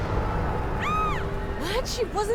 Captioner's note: dramatic music; woman screams